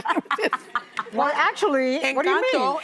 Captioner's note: laughing